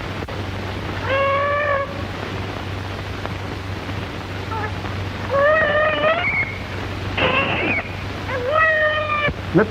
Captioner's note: baby crying